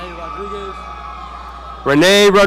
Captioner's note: audience cheering